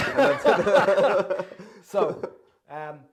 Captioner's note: both laughing with gusto